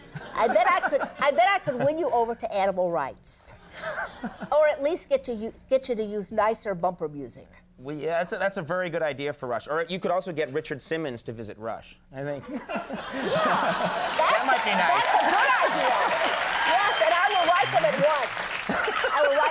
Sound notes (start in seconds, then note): 12.5 audience laughing; 16.2 audience applauding